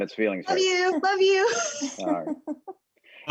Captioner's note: laughing